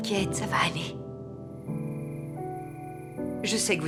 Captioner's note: insects chirping